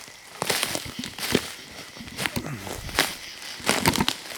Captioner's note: leaves rustling